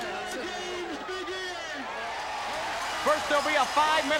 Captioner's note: audience cheering